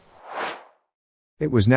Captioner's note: air swooshes